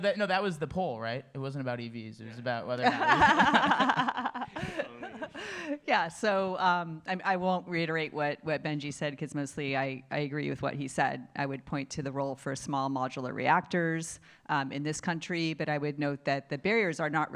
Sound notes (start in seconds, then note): 2.8 laughter